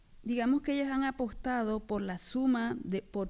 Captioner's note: speaking spanish